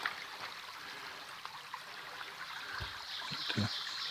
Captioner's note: running stream